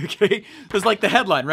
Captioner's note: laughs